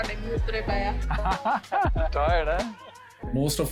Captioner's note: woman speaking Punjabi; laughs; speaks Punjabi